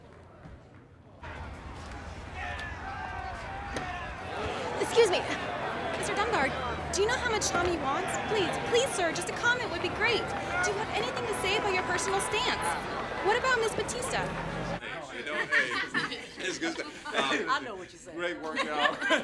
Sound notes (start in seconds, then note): 2.0 disgruntled crowd shouting; 13.2 people talking together